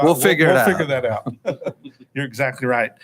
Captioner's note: chuckles